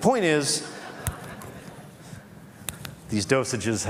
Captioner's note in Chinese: Laughter; 笑聲